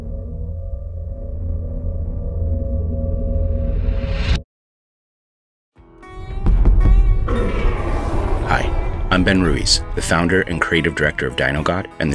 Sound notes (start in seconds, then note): 6.4 drums banging; 7.2 monster roaring